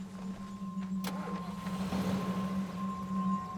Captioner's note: car doors slam; car engine starts